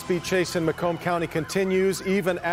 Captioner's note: sirens and horns